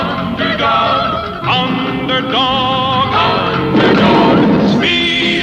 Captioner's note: explosion; lighting Strikes